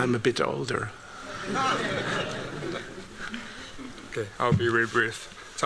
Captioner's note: laughter